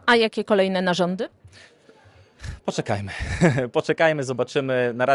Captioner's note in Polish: śmiech